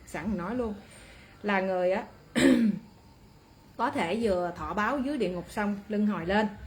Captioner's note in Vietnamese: hắng giọng